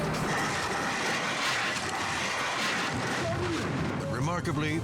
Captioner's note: helicopter crashing